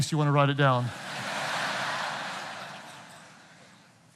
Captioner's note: audience laughing